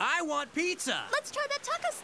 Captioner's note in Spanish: emocionado